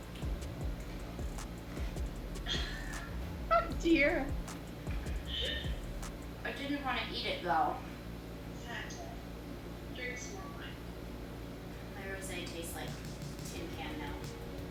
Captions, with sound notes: (laughs) Oh dear. I didn't wanna eat it though. - Snack tray, drink some wine. - My rosé tastes like a tuna can now.